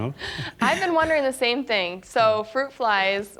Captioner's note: chuckling